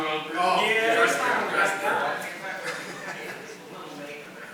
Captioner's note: people chatting